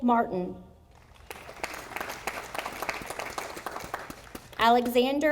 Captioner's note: audience applauding